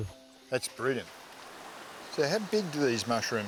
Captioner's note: water sloshing